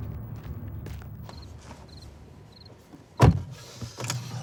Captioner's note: feet pattering; insects chirping; door slamming